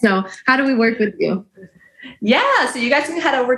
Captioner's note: chuckles